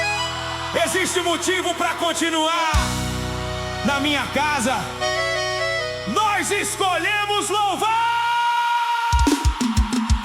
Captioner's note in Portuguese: grito